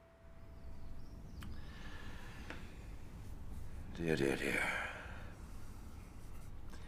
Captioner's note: inhales deeply